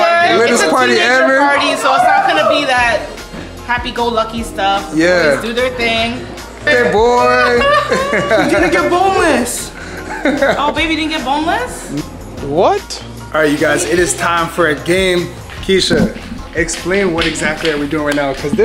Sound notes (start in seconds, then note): 7.4 whinning; 9.9 laughs